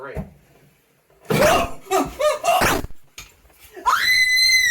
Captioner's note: gun firing; Delia screaming